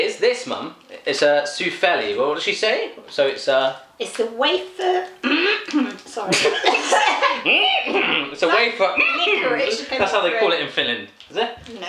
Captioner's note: coughs